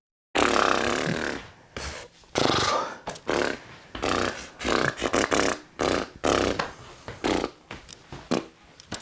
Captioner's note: blows raspberry